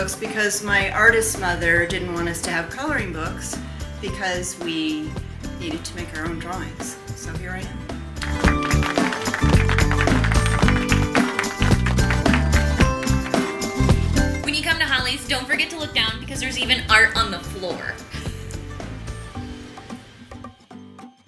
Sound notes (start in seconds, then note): 8.2 applause; 8.2 upbeat music; 18.4 upbeat music